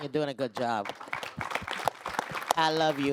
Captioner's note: applause